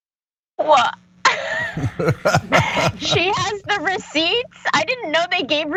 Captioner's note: laugh